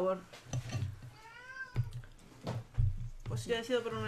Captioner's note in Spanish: gato maullando